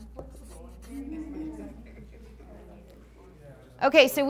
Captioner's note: class mumbling